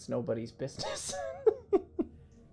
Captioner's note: laughing